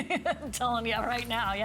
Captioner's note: laughter